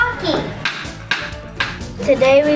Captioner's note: stick banging